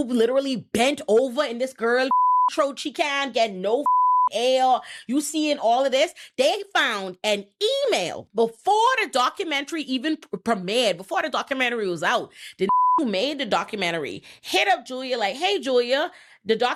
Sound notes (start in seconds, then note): 2.1 beep; 3.8 beep; 12.6 beep